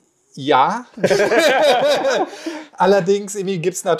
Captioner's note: laugh